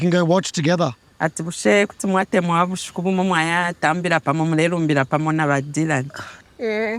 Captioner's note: interpreter speaking in foreign language